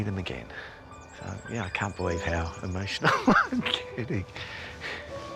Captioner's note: laughs